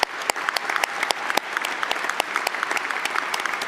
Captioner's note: applause